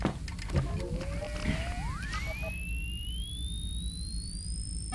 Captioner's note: computer whirs